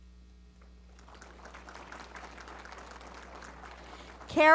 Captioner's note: applause